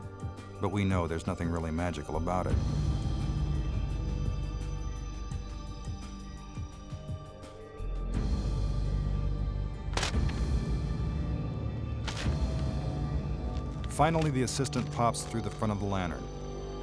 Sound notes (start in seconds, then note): 5.0 dramatic music continues; 9.7 paper rips